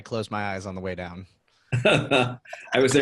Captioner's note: laughing